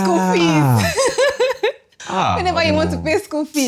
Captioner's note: laughs